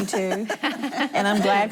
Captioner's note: laughing